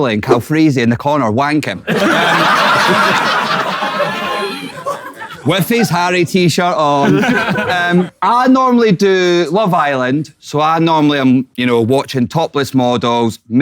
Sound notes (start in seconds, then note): 1.8 people in room laughing